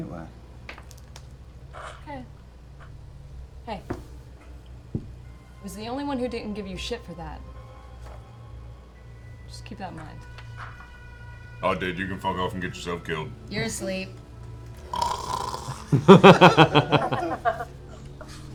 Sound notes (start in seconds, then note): 14.9 snores; 15.8 laughter